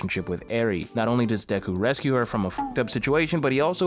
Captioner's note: beep